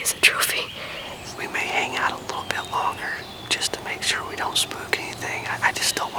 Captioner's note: whispering